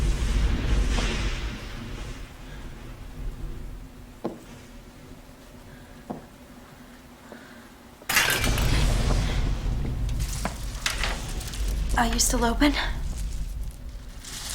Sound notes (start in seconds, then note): 0.0 thunder & lightning; 8.1 clatter